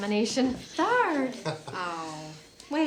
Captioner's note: Matthew laughing